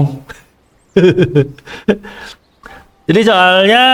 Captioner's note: laugh